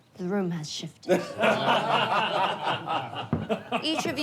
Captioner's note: group laughing